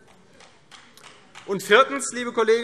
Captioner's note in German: Vereinzelter Beifall CDU